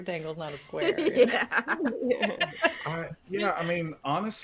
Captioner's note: giggles